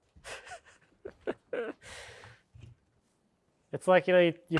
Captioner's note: speaker laughing